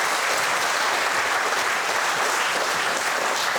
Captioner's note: audience applauds